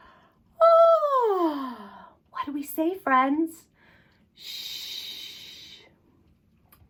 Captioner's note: yawn